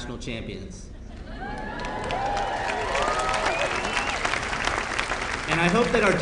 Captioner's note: applause